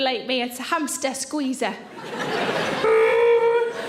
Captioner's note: audience laughing